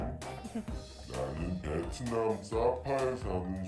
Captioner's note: non-english